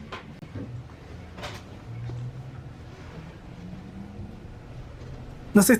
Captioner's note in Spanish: sonido del bus de celda de hidrógeno de Tokyo BRT